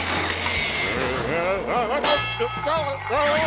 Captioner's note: nervous groans